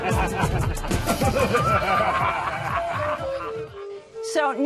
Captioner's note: laughter